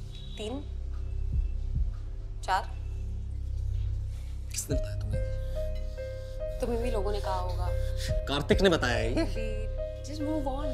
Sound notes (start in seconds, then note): 5.9 panting